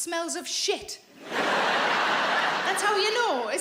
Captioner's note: audience laughing